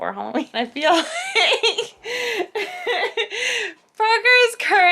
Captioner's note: laughs